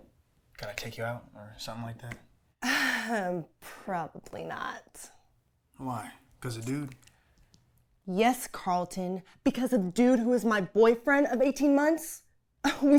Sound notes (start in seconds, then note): 3.0 laughs